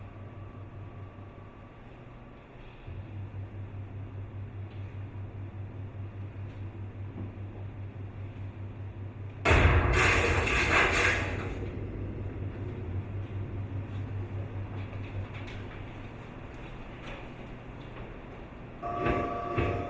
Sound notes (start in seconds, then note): 11.6 loud crash echoes